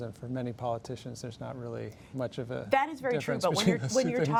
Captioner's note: laughs